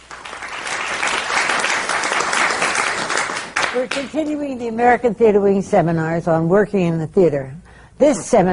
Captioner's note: applause